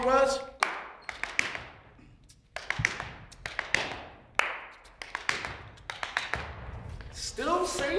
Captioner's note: tapping